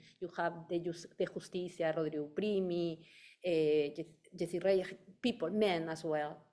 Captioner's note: speaking in foreign language